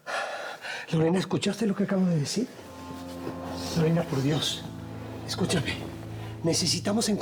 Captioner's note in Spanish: exhala